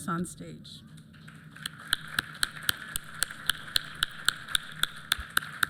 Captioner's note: applause